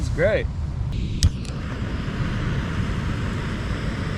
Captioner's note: stove lighting